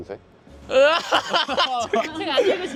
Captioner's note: eventually bursts out laughing